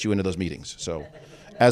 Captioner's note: chuckles